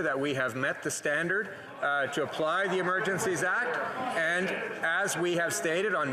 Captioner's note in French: voix de l'interprète